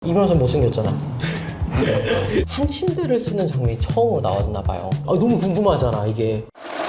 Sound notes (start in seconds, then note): 1.7 laughter